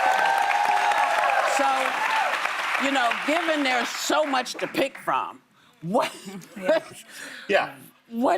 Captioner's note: applause